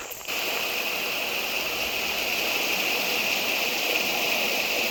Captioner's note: water roaring